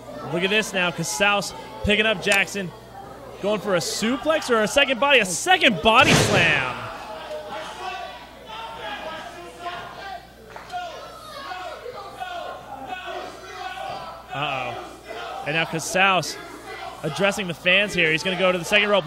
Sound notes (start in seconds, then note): 11.4 crowd